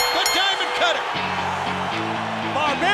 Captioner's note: bell ringing